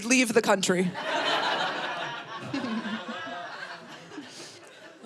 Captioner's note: audience laughing